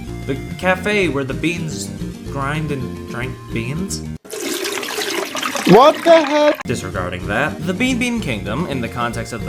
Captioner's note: coffee noises